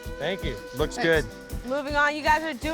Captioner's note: pat